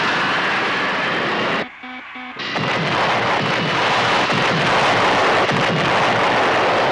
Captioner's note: beeping; booming